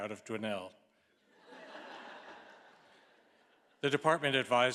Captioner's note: all laughing